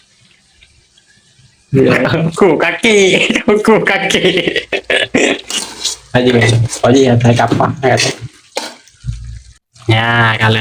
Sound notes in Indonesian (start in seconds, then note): 3.0 tertawa